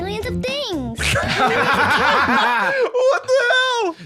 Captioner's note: both laughing